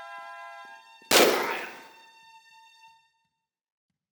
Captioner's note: bam